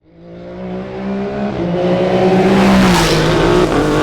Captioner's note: car engine roaring